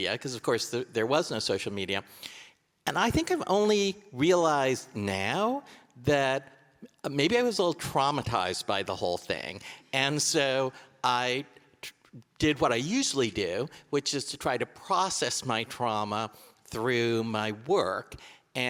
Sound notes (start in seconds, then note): none